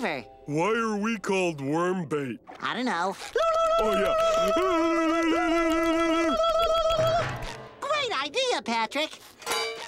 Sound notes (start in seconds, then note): 4.3 screeching